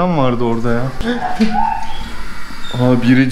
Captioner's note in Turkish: Hapşırık